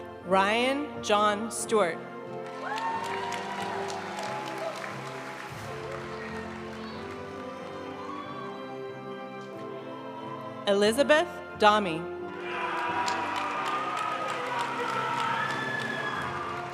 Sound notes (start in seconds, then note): 2.4 audience applauding; 5.6 graduation music; 12.4 audience cheering and applauding